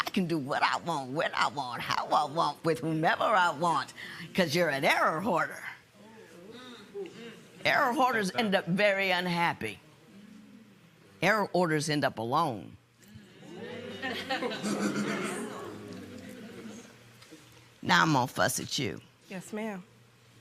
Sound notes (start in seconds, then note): 13.1 murmurs, chuckling